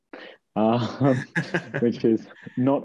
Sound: laughs

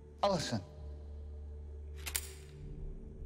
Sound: shotgun cocks

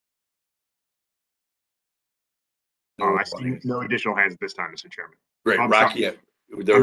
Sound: A pause

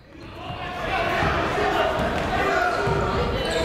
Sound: chatter

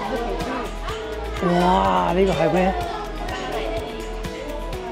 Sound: Cantonese

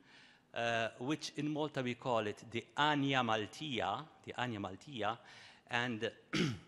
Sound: speaking in Maltese

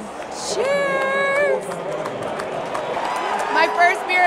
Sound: fans cheering

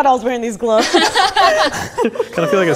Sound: people laughing

